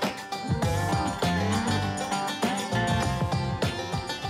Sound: mooing

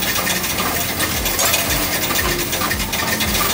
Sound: coins rattling

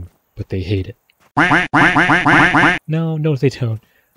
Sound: furious quacking

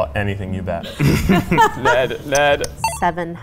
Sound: laughing

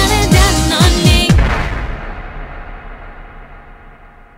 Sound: thunder crashing

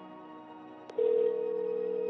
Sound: phone rings

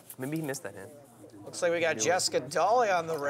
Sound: voiceover

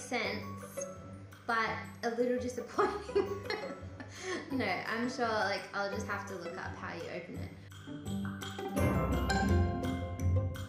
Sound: laughs

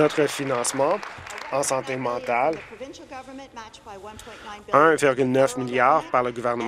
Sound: applause

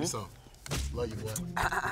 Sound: clears throat

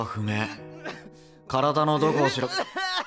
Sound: crying

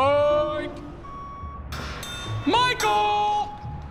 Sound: beeping

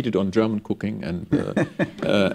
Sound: laughter

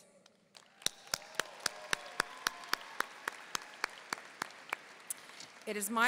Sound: audience cheering and applauding

